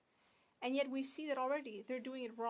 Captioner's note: speaking French